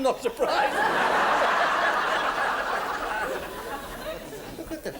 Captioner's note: audience laughs